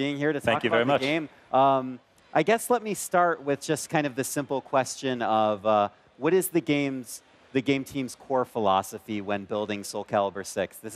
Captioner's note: speaking in foreign lang